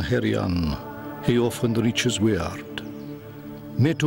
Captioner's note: man speaking Old English